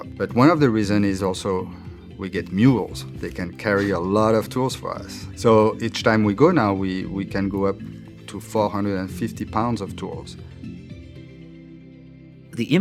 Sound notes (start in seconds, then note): 3.6 warm laughter